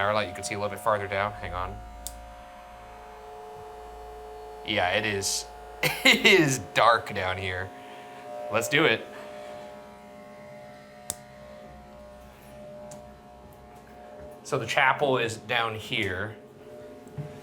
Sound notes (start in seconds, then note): 2.0 light clicks; 10.2 suspenseful music